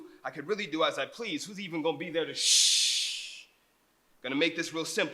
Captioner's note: none